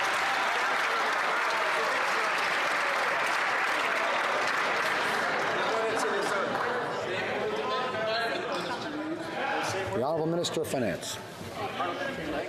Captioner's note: some Applause